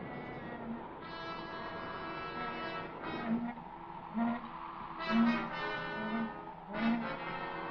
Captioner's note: wind blows; sign creaks; ominous music; wind blows